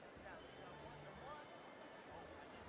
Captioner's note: none